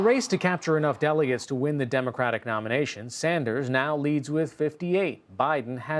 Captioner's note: cheers and applause